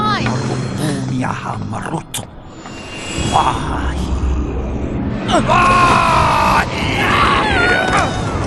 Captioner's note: vizier chanting a spell